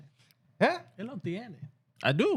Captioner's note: speaking Foreign Language